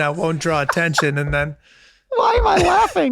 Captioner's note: Glenn laughing